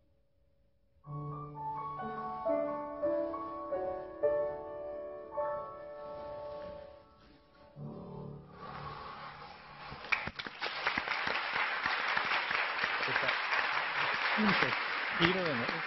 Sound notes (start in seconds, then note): 1.2 piano playing; 9.9 clapping